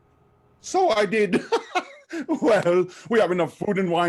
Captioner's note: chuckle